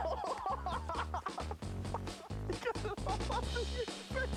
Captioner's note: laughs